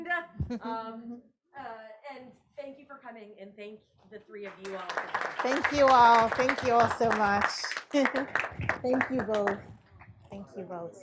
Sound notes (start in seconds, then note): 4.6 audience applauding